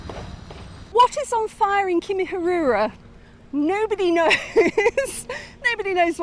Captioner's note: laughing